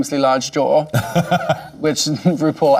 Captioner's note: laughing